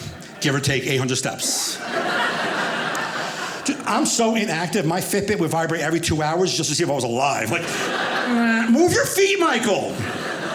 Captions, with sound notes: give or take 800 steps? (audience laughing) I'm so inactive my Fitbit would vibrate every two hours just to see if I was alive like, (audience laughing) "Move your feet Michael!"